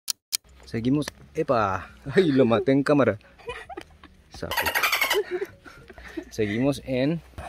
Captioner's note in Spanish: dolphin sounds